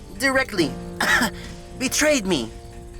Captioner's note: fake coughing